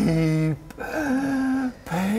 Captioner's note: hrhhhhh